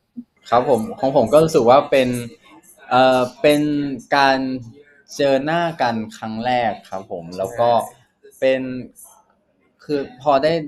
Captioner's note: answering in Thai